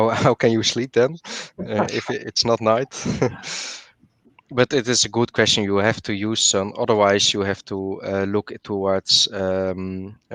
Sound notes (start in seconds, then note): 2.9 laughter